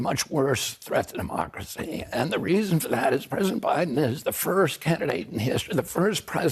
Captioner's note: HABLA EN INGLéS